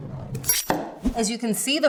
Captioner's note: knife chops